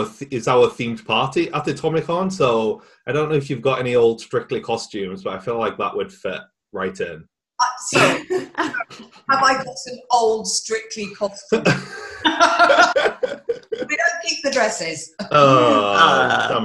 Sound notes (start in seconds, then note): 11.5 all laughing